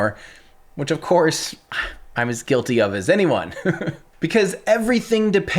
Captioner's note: chuckles